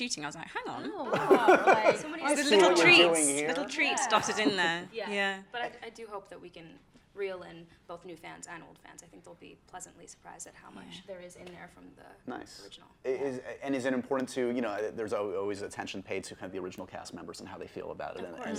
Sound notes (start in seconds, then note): 0.9 laughs